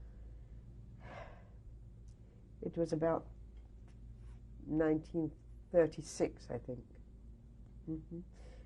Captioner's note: sighs